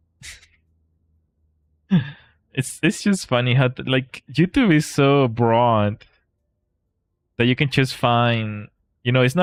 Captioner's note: laughter